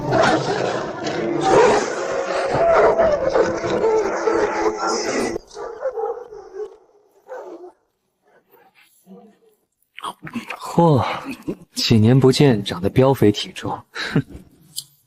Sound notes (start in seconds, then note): 1.6 sobs